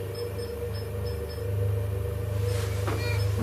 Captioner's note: beeping